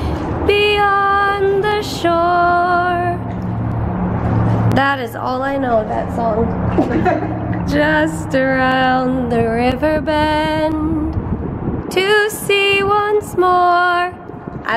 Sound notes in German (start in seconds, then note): 6.7 beide lachen; 7.7 singt